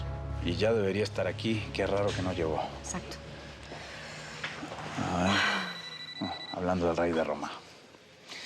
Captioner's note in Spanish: suena un celular